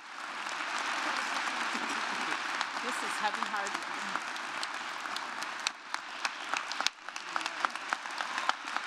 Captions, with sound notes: (audience clapping) This is heavy hearted. (audience clapping)